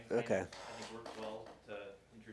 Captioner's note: murmurs